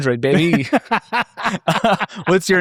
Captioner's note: laughing